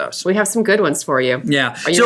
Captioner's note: voiceover